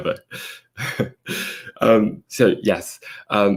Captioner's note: laughs